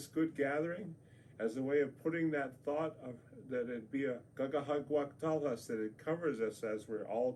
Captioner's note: speaks native language